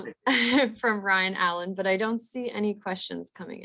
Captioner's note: laughs